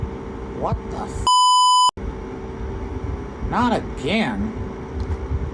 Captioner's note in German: Piep